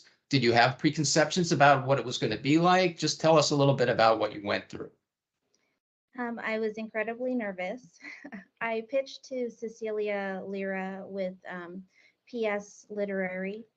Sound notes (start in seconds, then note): 7.9 chuckling